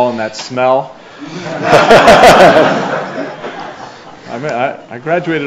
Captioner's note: everyone laughs